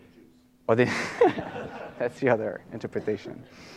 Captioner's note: laughter